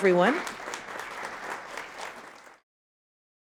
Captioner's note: audience applauding